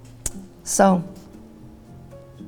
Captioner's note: sucks teeth